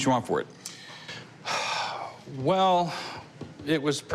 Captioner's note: sighs